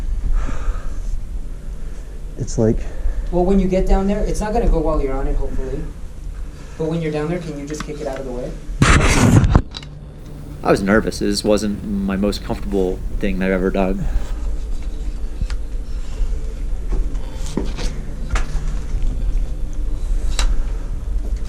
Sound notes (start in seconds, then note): 0.3 heaves a sigh; 8.9 camera bangs and scrapes; 14.7 heavy breathing; 14.7 scraping and clattering